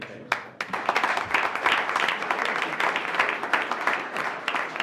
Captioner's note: attendees applauding